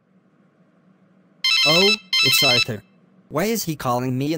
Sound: SFX: Cell Phone Ringing

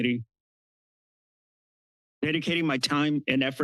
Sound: pause

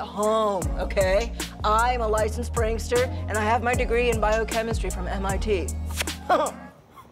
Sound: smooch

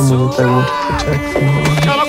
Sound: shouting

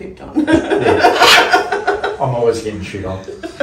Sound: laughs

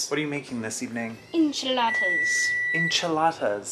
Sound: oven beeps

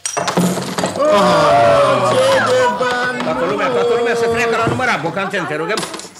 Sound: excclaims

